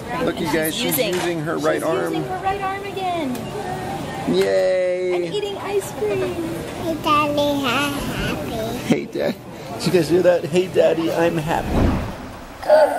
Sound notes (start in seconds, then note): 7.2 baby talk; 12.7 gasps